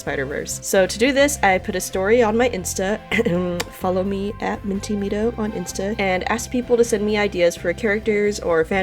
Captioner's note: ahem